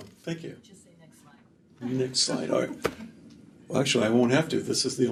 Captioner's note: laughter